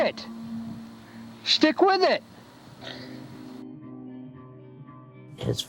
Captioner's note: coughing